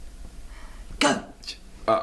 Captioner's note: whispers